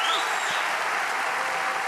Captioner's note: applause